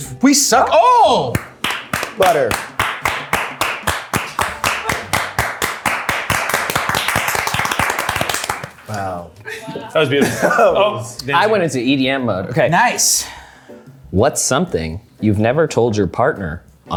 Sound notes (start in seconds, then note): 1.3 people applauding